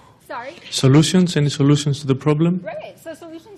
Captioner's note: voiceover